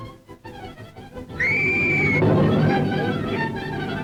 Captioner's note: loud screaming; suspenseful music